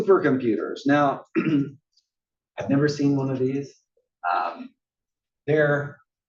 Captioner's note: cough